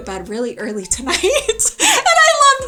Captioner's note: laughs